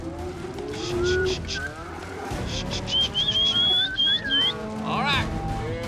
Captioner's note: cattle mooing, calling